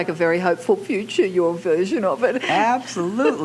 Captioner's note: laughs